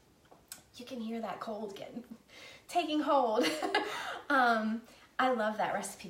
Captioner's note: laughing